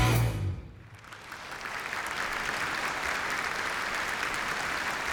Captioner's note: applause